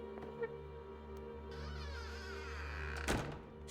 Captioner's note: door creaks and closes